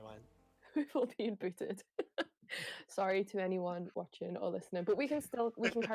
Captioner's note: laughing